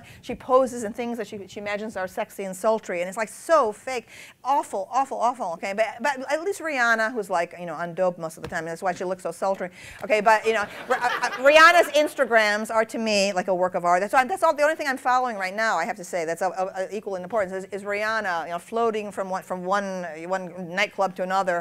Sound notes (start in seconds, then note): 10.6 laughter